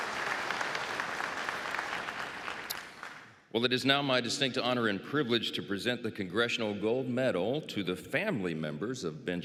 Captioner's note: applause